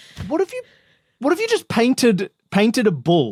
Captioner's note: none